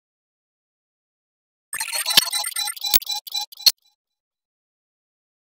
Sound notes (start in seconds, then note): 0.0 sound of chirp